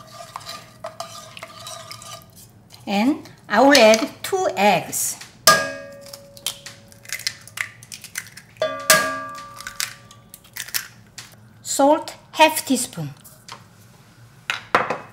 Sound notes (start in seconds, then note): none